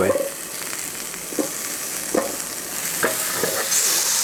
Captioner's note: sizzling